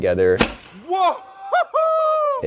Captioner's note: loud banging